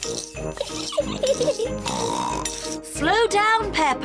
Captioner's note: giggles and snorts